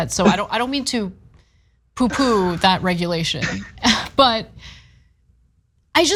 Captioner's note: laugh